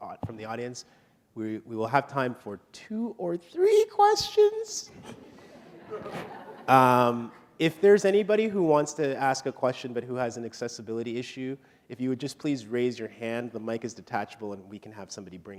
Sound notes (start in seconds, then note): 5.0 laughter